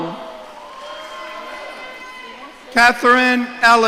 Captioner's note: audience cheering